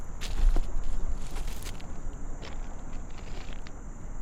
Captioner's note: footsteps crunching